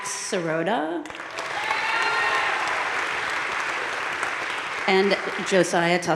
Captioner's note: audience cheering and applauding